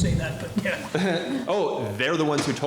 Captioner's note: laughter